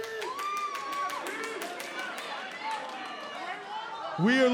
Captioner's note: crowd cheering